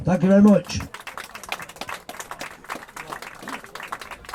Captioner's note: applause